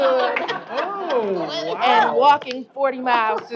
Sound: laughter

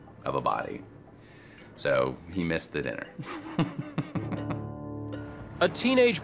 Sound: laughs

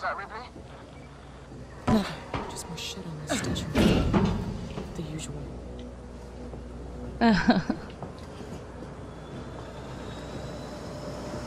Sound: laughs nervously

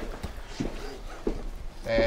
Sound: laughs quietly

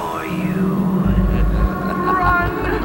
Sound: evil laughter

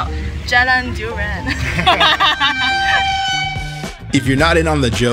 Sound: people laughing

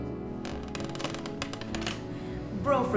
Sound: creaking

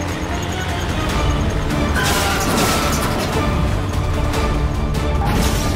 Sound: car crashing

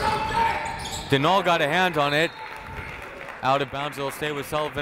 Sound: whistle

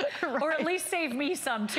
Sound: laughter

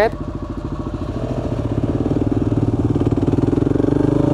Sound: motorcycle revs

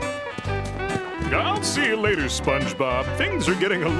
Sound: none

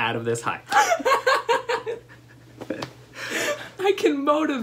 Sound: laughter

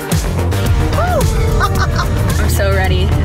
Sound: laughing

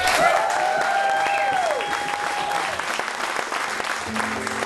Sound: cheers and applause

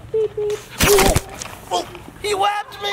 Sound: yells

